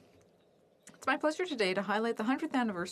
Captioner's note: speaking French